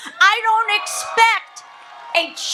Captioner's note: audience cheers